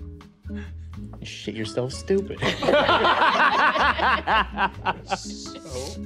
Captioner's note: players laughing